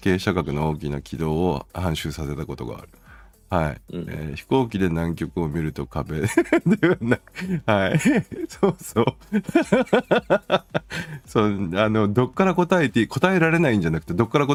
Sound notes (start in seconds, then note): 9.3 laughing